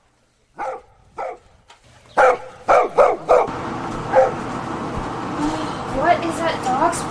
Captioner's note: dog barking